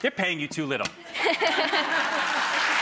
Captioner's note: crowd cheers; light laughter